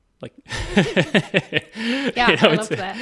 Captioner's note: laughing